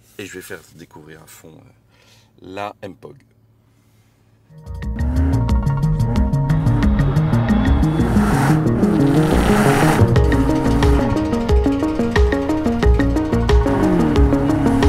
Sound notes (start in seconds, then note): 4.8 engine roaring